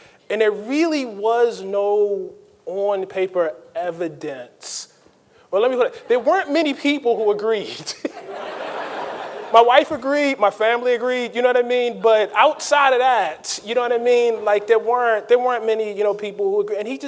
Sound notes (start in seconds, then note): 7.8 laughs; 7.9 audience laughing